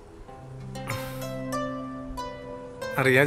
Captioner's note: sighs